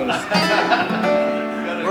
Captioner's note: laughter